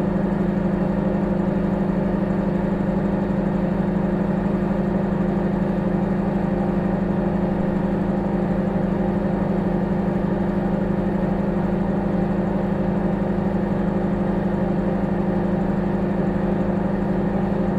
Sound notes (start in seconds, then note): 3.2 microwave humming